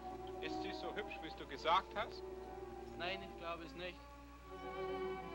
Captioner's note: soldiers speaking in German; suspenseful orchestral music